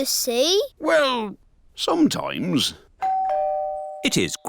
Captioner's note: doorbell dings